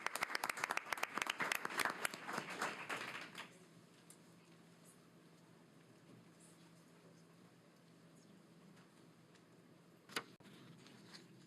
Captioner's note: applause